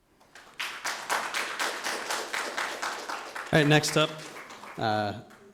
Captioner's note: audience applauds